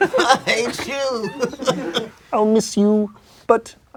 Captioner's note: laughing